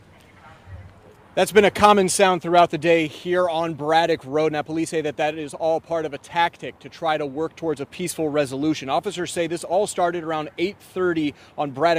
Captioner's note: booming